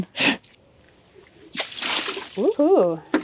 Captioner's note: liquid splashing